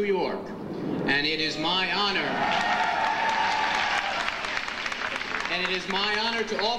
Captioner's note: audience applauds and cheers